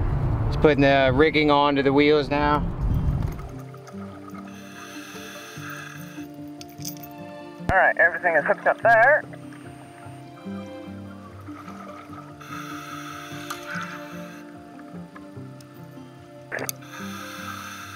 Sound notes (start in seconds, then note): 6.5 chain rattles; 10.7 gentle music